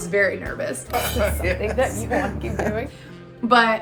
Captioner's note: both chuckling